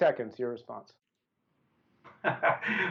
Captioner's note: laughter